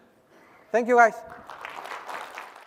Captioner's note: applause